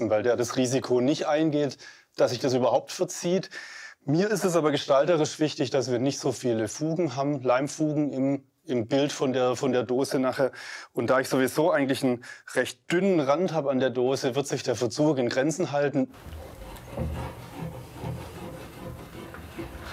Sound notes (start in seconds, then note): 16.1 scratching